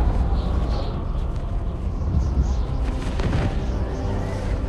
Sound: wind whistles

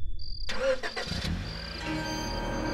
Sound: engine starting

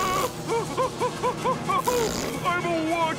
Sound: screaming; panting

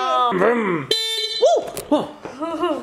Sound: honks

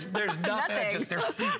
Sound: laughter

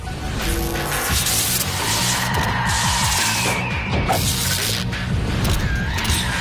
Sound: ominous music; static crackling

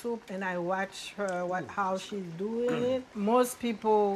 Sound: clears throat

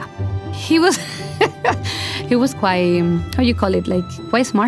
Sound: laughing

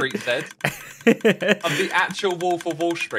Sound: laughs

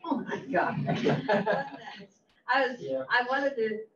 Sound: all laugh

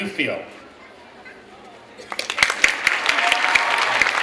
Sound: clapping

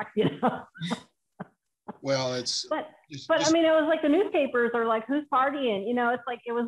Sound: laughter

